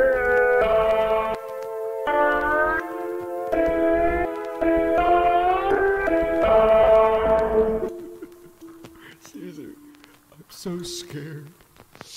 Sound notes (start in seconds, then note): 7.8 whimpering in sorrow and fear